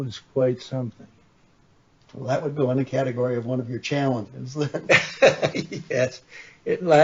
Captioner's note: both laugh